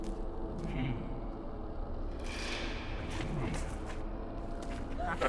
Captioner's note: leprechaun chuckling